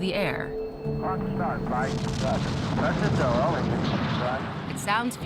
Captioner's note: men speaking on radios